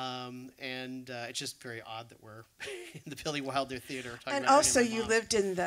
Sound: laughs

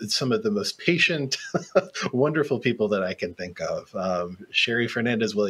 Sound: laughs

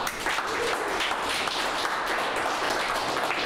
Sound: applause

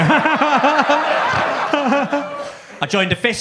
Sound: Gary laughing

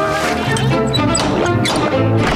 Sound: knocking

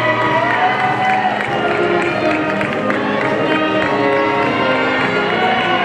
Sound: people clapping and cheering

